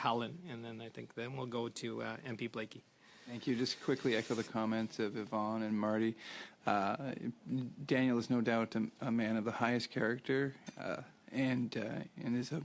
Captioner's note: speaking French